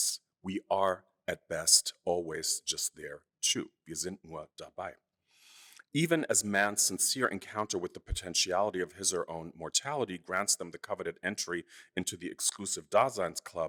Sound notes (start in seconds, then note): 3.8 speaking german